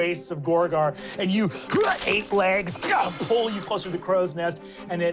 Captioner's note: crunches